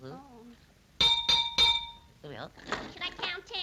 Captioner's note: hammer clanging